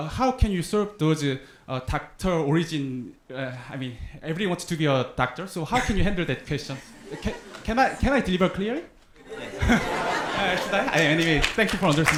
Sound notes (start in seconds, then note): 9.2 audience laughing